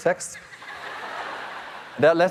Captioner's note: audience laughing